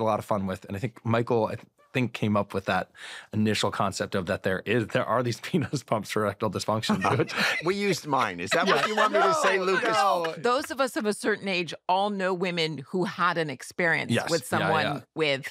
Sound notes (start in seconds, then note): 6.8 laughter